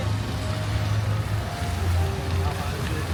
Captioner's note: water splashing